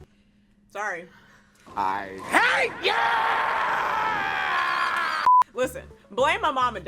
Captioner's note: beep